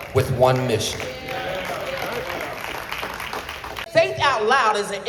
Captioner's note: applause